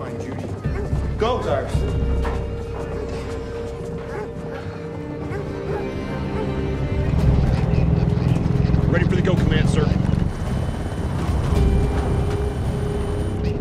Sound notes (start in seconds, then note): 6.2 radio chattering; 10.5 vehicles rumbling